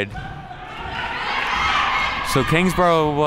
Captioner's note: team mates cheering